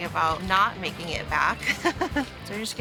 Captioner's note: laughs